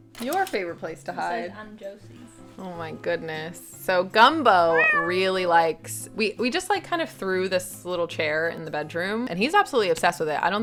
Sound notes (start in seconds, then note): 4.6 Gumbo meowing